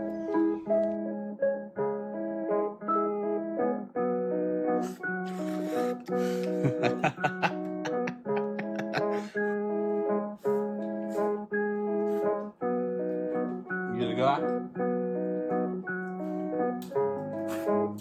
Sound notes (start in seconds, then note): 6.2 man laughs; 14.3 playful music continues